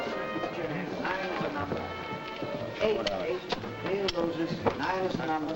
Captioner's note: players chattering